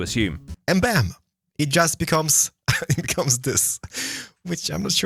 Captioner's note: laughs